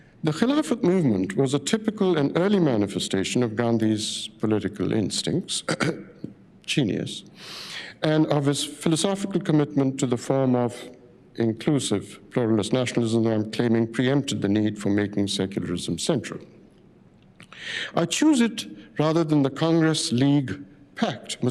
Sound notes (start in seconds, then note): 5.6 clears throat